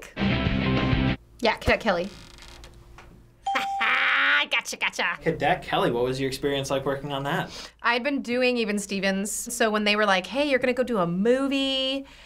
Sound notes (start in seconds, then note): 0.3 upbeat music; 3.4 ding; 3.5 laughs triumphantly